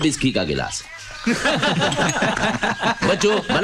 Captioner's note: Laughs